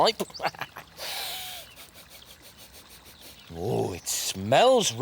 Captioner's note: sniff, Sniff, Sniff